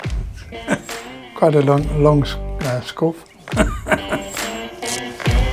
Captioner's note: laughs